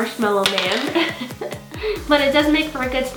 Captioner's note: laughs